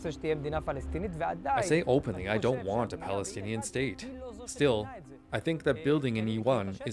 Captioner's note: speaking alternate language